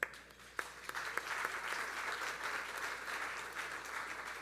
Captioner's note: audience applauding